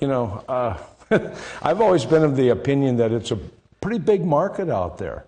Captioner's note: laughs